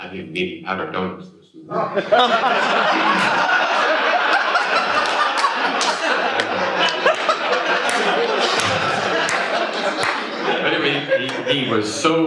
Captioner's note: laughter